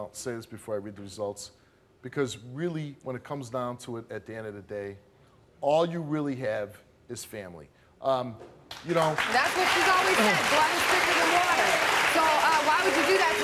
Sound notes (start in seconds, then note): 8.7 audience applauds